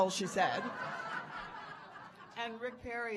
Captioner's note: audience laughing